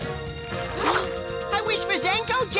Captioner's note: whoosh